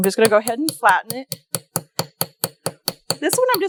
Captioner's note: light hammering